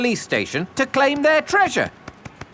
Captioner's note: none